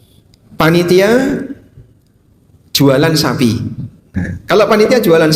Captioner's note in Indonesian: berdehem